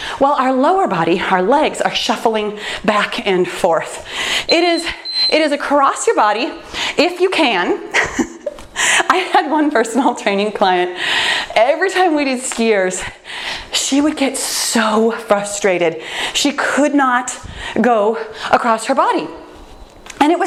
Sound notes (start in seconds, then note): 4.4 timer beeps; 8.2 laughs